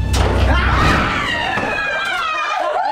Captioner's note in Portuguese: Gritos